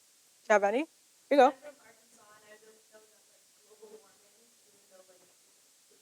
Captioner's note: participant faintly speaking